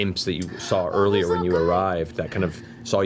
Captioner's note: gasps